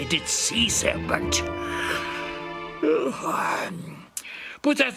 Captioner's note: yawn